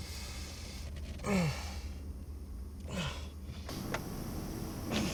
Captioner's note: Mark grunting